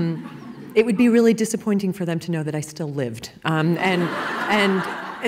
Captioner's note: laughing; laughing